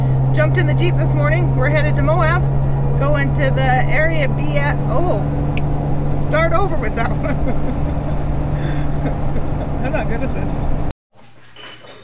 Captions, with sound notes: jumped in the jeep this morning we're headed to Moab go to the area BF ah oh (snap) start over with that one (laughing) I'm not good at this